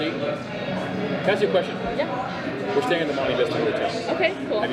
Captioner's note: faintly speaking